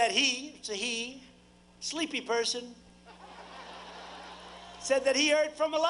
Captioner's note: applause